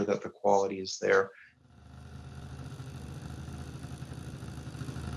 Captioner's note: engine roaring